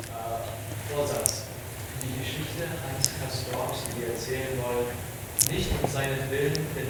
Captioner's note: audience member speaking in foreign language